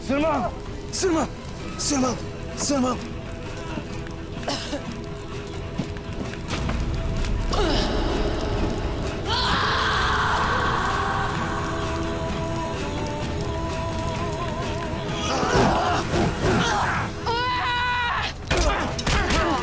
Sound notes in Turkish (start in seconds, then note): 3.3 Ateş Sesleri; 9.0 Bağırma Sesleri; 15.2 Dövüş Sesleri